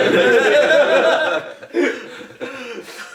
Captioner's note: laughing